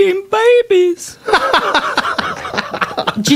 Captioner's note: laughter